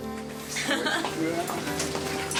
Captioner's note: woman laughing